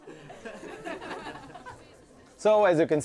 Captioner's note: audience chuckling